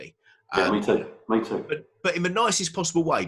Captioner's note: murmurs